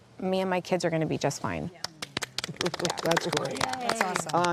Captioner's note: clapping